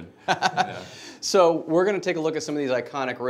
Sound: laughs

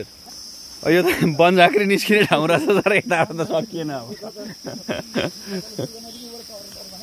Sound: haha

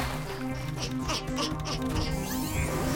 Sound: grunting in effort; machine powering up

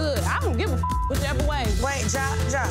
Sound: beep

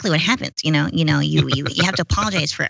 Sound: laugh

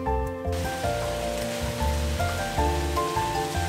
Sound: fire crackling; gentle upbeat music

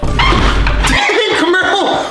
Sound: refrigerator thuds; audio thuds; shoes squeaks

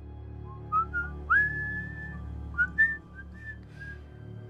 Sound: man whistling

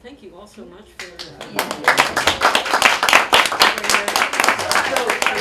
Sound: applause

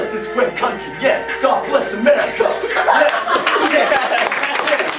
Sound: applause

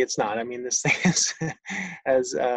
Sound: laughs

